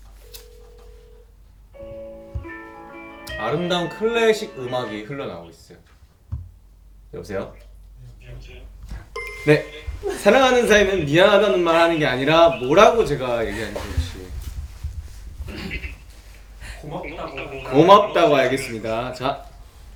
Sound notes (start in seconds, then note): 1.8 the phone rings with a delightful tune